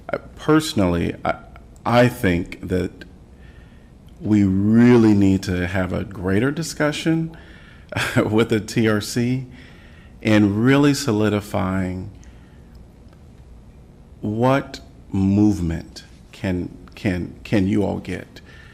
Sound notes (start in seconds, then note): 7.9 laughter